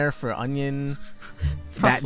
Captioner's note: giggle